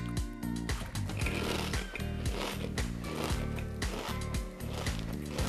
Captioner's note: Truman munching